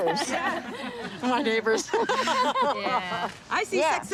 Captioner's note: laughter